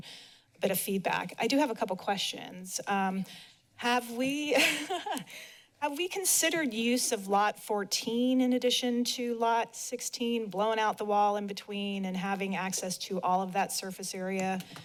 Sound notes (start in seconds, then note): 4.6 laughs